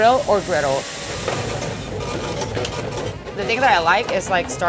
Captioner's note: machine buzzes